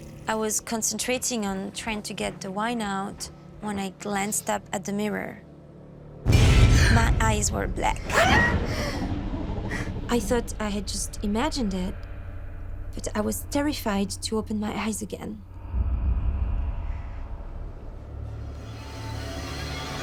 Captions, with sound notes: I was concentrating on trying to get the wine out when I glanced up at the mirror. My eyes were black. [gasping] I thought I had just imagined it, but I was terrified to open my eyes again. [creepy music]